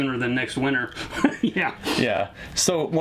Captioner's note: laughs